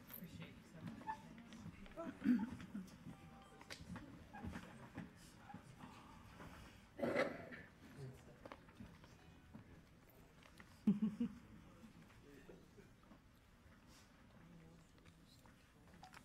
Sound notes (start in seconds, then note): 2.0 people chattering faintly